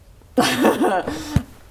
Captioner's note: laughs